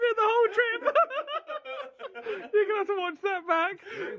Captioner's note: laughs